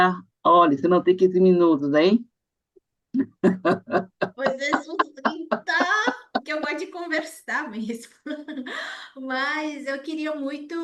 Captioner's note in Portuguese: risadas